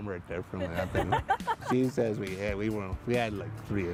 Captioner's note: laughter